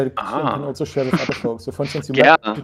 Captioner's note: chuckling